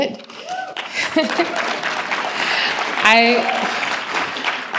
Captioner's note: applause